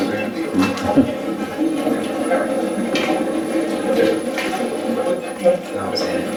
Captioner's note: static playback transmitting